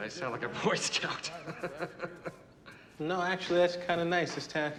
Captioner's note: laughing